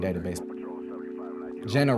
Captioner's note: police radio scanner